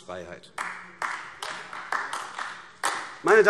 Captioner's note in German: Beifall AfD